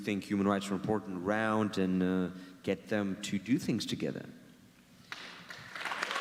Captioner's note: audience cheers and claps